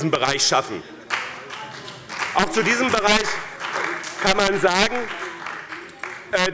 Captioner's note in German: Beifall bei dem BÜNDNIS 90/DIE GRÜNEN und der CDU